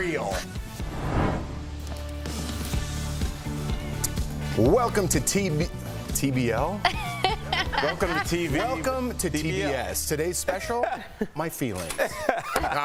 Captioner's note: laughter